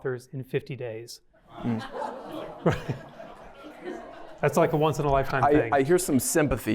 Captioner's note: laughter